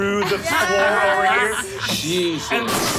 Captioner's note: group cheers